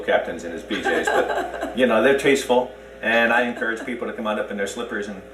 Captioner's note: laughs